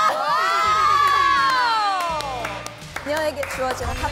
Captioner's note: clapping